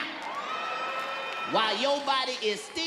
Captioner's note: audience cheers